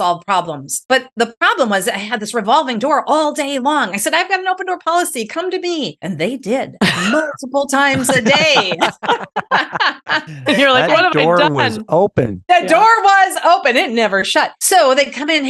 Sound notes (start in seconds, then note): 12.2 laughs